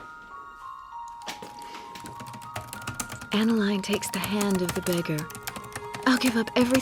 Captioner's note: typing resumes